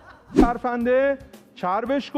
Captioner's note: laughter